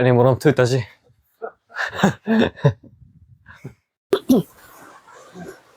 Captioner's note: Bear and Yak Laugh